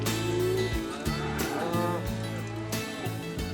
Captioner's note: mooing